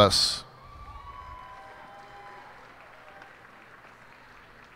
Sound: cheers and applause

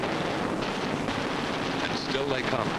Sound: explosions

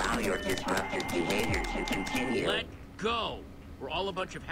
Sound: static robotics

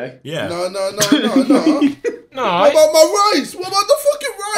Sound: all laughing

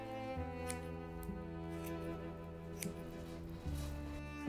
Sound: scissors snipping

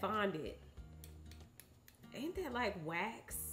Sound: fork tapping

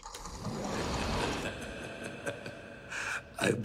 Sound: chuckling

